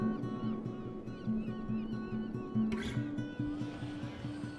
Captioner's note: gentle acoustic guitar begins; seagulls calling